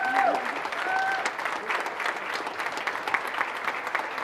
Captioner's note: audience shouting